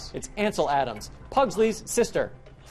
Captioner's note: none